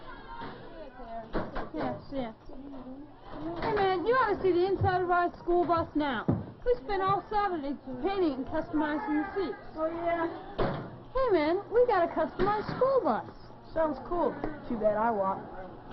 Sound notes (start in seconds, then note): 10.5 locker slams